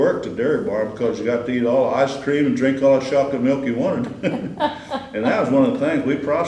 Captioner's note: laughter